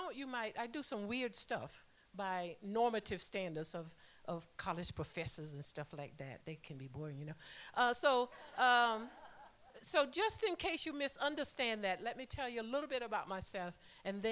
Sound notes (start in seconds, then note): 8.3 laughter